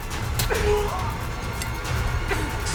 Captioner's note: Jordyn grunting; Meathook Man groaning; dramatic music